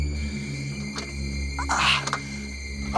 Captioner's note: door clicks; Dean groaning